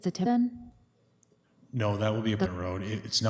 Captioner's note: audio drop